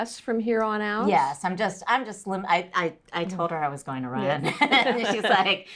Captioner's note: laughter